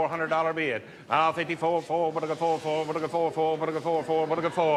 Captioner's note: veilingmeester spreekt snel